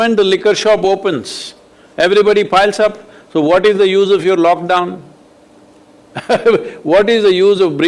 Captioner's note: laughs